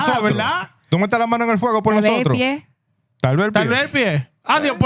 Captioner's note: speaking Spanish